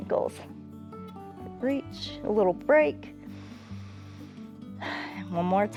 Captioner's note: inhales and exhales